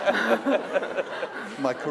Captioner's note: laughter